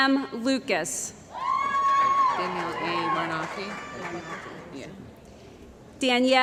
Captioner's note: cheering & Applause